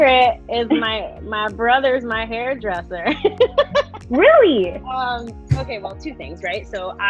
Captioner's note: laughing